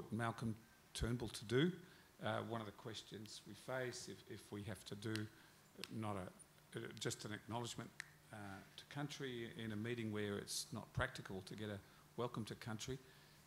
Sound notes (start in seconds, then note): none